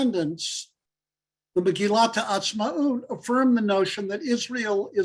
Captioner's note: Hebrew